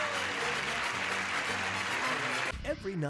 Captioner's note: clapping